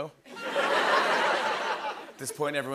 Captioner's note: laughter